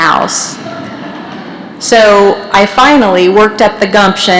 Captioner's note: laughter